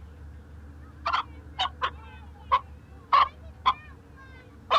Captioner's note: chicken clucks